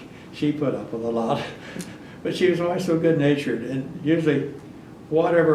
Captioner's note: laughs